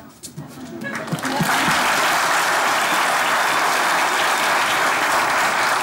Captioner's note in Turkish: Alkış sesleri